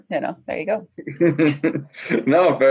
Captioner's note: laughing